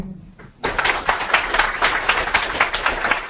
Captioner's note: applause